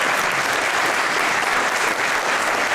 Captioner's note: applause